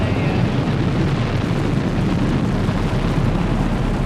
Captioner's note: rocket roaring